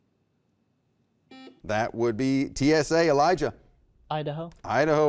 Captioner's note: beep